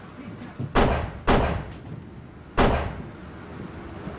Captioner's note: guns fire